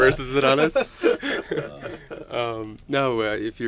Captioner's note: both chuckling